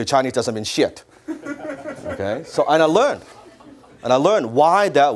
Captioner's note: audience laughs